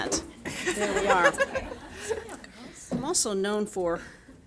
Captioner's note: audience laughing